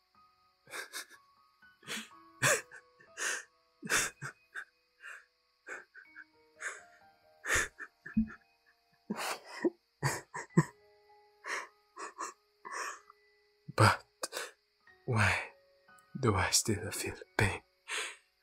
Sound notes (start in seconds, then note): 2.4 crying